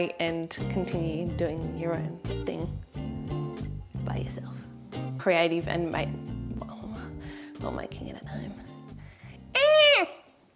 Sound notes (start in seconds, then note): 9.5 exclaims